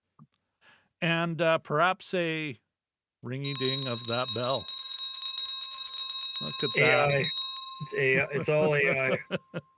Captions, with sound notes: and perhaps a ringy ding of that bell. (bell ringing) Look at that. It's A-I, it's all A-I.